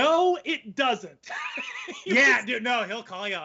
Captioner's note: laughing